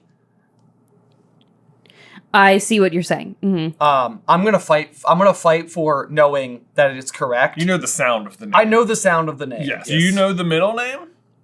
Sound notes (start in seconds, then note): none